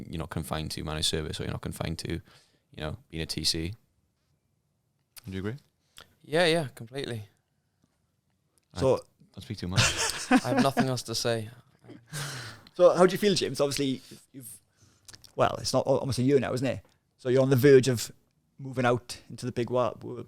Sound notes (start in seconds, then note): 9.8 laughing